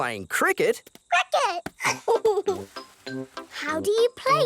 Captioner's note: giggles